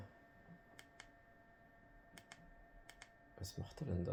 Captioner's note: sound: Remote control buttons